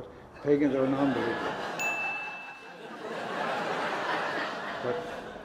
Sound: laughing

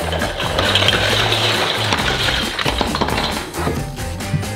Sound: toys clattering

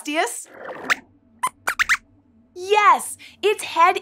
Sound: squeaks squeaks

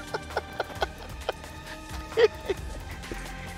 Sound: laughing

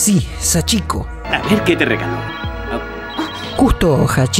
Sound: phone call

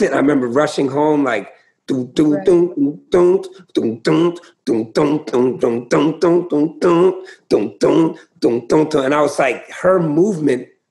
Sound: makes a beat

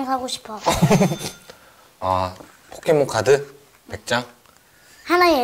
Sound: laughing

